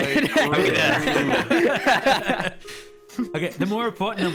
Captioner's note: wild laughter